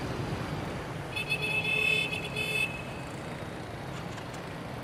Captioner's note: horn blaring